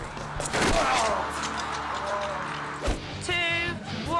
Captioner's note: athlete groaning; athlete thudding; dot whooshing; rock music